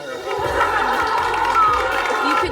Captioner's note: students clapping and cheering